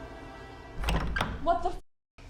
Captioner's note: suspenseful music continues; door creaking